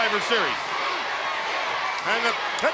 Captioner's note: audience chanting